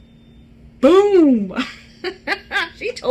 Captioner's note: laughs